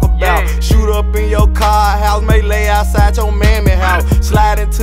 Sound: brr

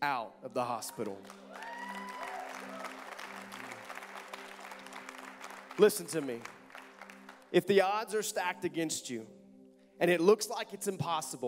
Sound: audience clapping

